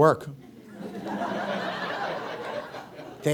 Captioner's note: audience laughs